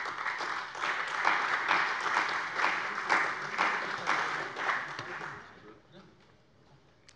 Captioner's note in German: Beifall bei der CDU und dem BÜNDNIS 90/DIE GRÜNEN